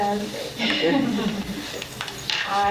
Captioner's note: laughs